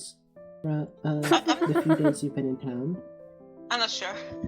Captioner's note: ROSE laughs